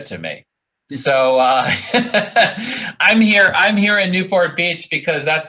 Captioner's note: laughing